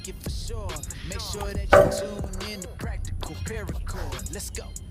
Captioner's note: loud clang